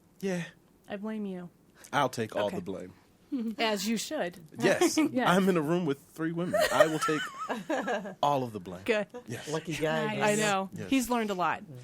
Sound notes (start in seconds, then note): 6.5 others laughing